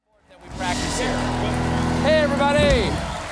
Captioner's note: applause